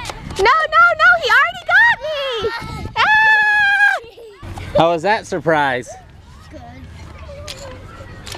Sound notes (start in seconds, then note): 3.1 yelling